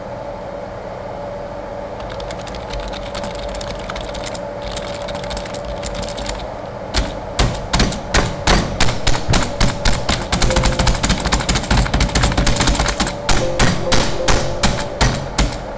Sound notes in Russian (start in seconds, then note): 2.0 звуки программирования